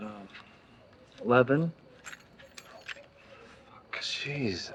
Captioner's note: keys falling onto the ground